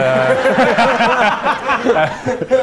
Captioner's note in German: Lachen